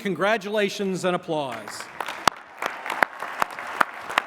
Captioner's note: applause